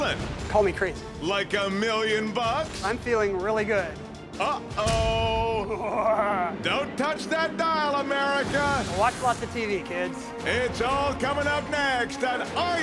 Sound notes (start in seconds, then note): 7.2 laughs